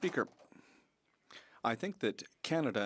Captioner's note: speaking French